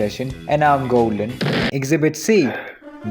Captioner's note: explosion